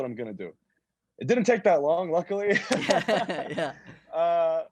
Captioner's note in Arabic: يضحك